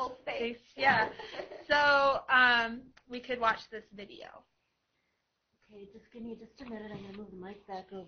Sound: laughter

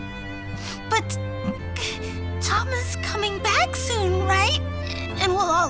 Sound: voice breaking

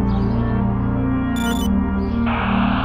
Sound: ear-comm beeps

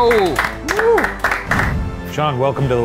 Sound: clapping

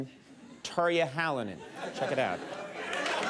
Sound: audience chuckles and cheers

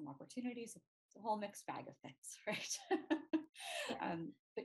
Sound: laughs

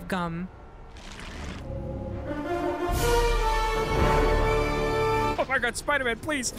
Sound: transformation sound

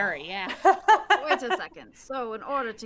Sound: game Master laughs

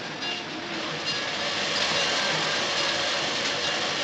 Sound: bell Continues Ringing

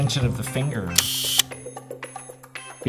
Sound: sound of camera shutter clicking

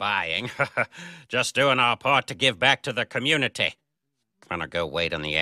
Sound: forced chuckle

